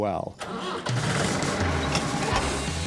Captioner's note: engine rumbling